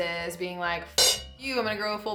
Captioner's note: clink